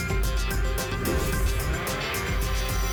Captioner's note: whoosh